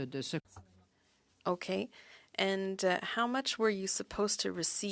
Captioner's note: speaking French